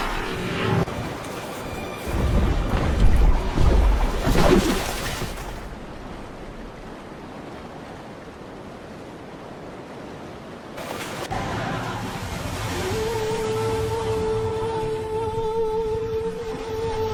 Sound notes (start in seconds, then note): 13.5 creature howling